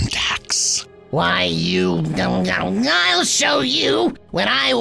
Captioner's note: grumbles